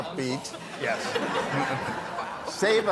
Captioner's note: audience laughing